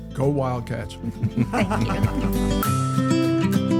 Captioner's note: laughter